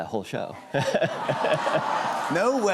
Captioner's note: audience aws